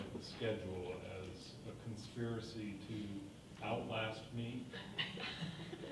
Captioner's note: people laughing